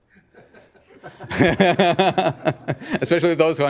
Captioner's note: laughing